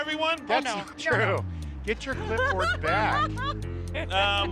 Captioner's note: laughs